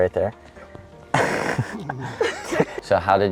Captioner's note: laugh